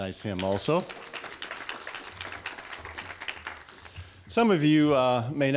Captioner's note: applause